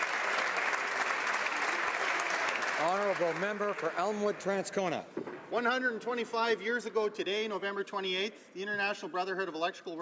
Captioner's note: applause